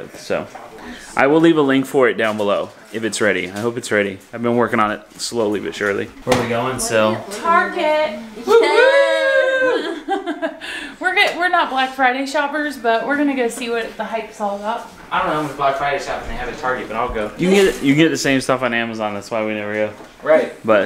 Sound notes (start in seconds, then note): 8.4 laughing